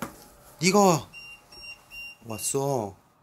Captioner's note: beeping